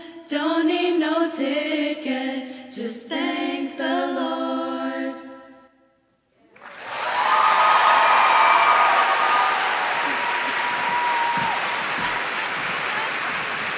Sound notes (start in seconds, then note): 6.5 audience shouts and claps